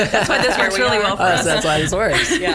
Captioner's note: laughter